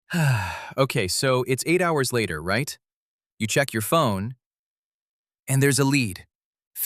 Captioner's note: sighs; nervous